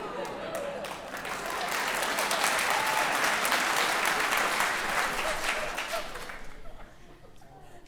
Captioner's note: audience applause